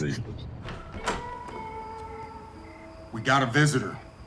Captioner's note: door clicks